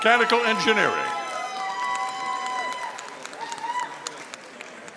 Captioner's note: audience cheering